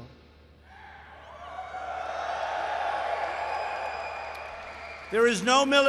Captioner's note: applause